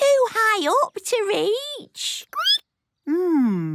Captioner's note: squeaking